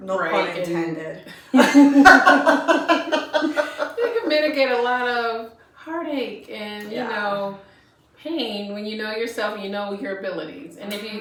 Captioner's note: laughter